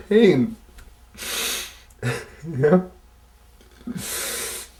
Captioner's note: sobbing quietly